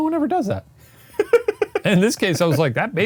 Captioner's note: chuckles